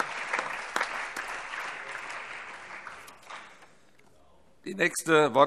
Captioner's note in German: Allgemeiner Beifall